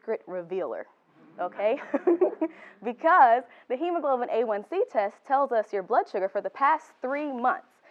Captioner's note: background laughter